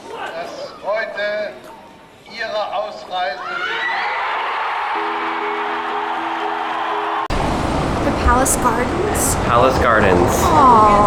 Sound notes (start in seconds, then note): 3.1 crowd cheering